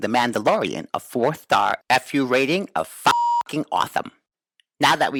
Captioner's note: beep